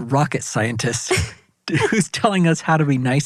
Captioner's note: laughing